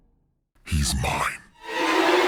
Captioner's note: ghostly Voice; intense scary music